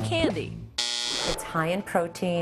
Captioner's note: buzzer